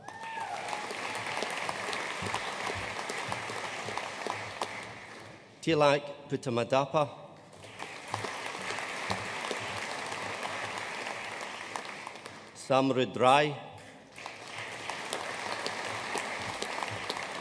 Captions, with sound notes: (AUDIENCE CHEERING AND APPLAUDING) Tilak Puttamadappa. (AUDIENCE APPLAUDING) Samrudh Rai. (AUDIENCE APPLAUDING)